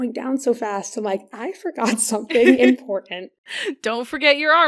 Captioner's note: laughs